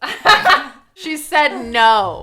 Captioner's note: both laughs